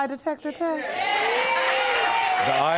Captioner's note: audience cheering